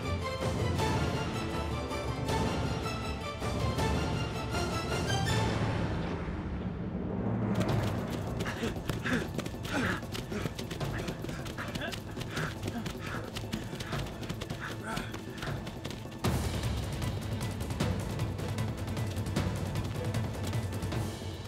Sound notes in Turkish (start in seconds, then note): 7.2 Ayak sesleri; 8.4 Nefes sesleri; 16.1 Müzik - Gerilim